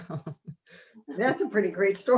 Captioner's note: laughing